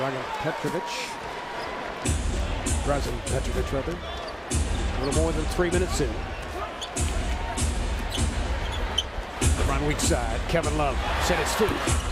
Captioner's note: crowd noise